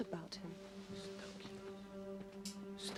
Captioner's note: berbisik